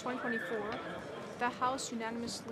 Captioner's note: speaking French